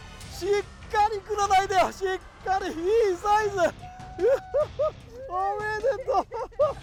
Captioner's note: laughs